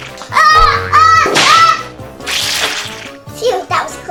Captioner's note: girl shouts